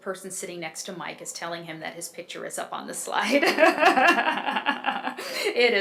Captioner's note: laughs